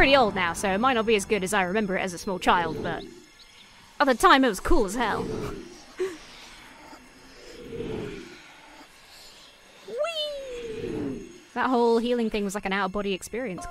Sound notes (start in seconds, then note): 5.1 magic wooshing; 5.1 voices whispering in reverse